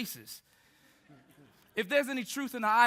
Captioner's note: group laughing